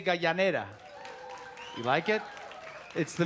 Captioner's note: cheering and applause